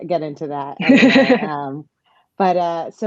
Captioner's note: chuckles